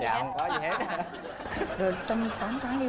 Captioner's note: laughing